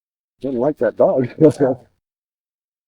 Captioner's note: laughs